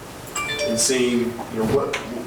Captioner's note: phone chiming